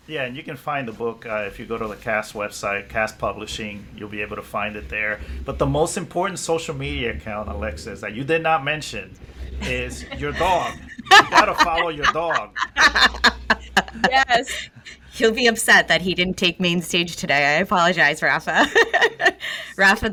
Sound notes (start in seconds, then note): 9.6 laughing; 18.6 laughs